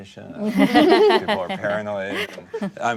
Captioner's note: laughter